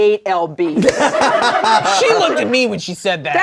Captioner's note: all laugh